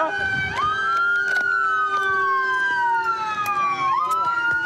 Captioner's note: sirens